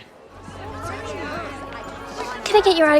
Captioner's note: gentle music; students chattering